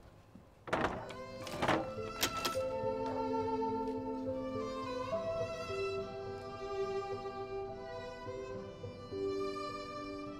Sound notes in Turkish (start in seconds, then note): 0.6 Kapı kapanma sesi; 1.4 Anahtar çevirme sesi; 3.4 Müzik - Duygusal